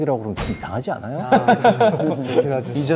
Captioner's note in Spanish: Jajajaja